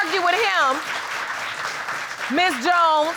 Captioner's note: audience applaud